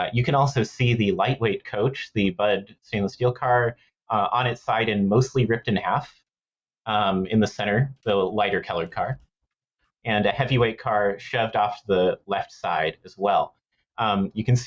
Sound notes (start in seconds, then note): none